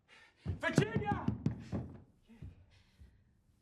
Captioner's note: banging